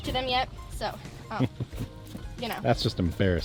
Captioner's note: laughs